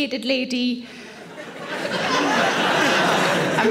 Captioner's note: audience laughing